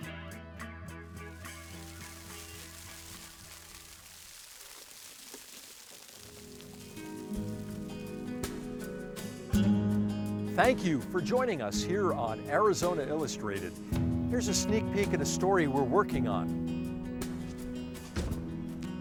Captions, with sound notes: (water splashing ) (bright guitar music) - Thank you for joining us here on Arizona Illustrated. Here's a sneak-peek at the story we're working on.